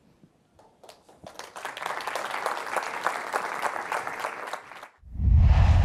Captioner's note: applause